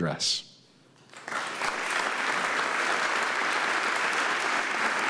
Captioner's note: audience applauding